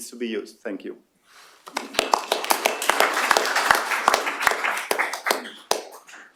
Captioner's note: applause